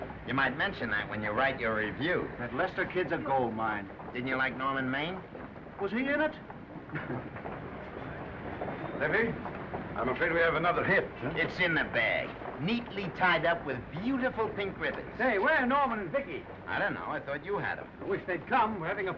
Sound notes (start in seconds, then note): 6.8 men chuckling